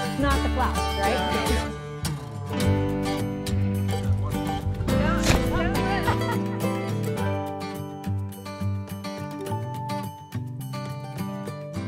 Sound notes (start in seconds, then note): 1.7 acoustic guitar music continues; 4.5 thudding sound; 5.5 chuckling